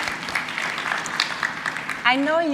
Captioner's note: audience clapping